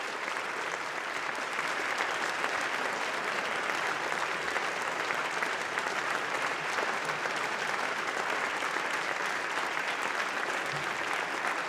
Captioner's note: applause